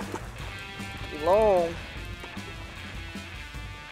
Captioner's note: water splashing